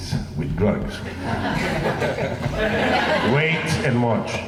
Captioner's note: laughing